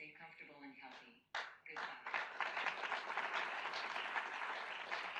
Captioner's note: audience applauds